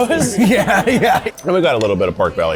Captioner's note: laughs